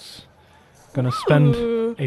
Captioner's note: laughs